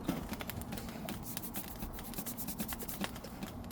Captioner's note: rustling sound